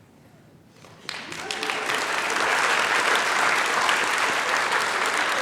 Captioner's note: applause